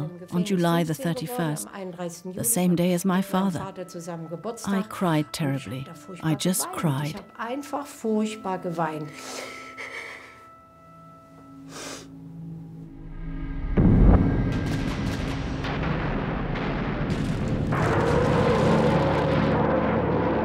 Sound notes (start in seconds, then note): 9.0 sobs; 12.5 guns fire; 13.6 explosions roar